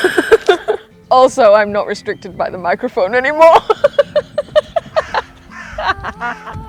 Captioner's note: calm Music Slowly Builds; laughs